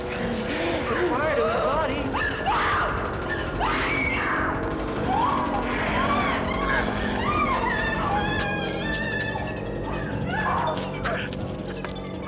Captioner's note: screaming